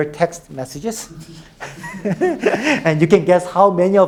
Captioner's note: all laughing